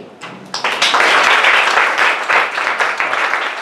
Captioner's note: applause